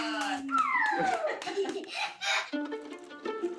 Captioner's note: laughs; chuckles; plucky string music